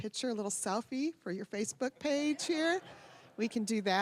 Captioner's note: audience laughing